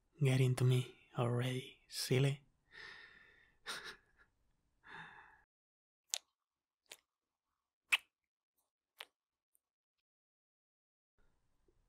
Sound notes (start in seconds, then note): 3.6 soft laugh; 5.7 kissing sound